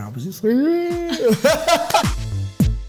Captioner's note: laughter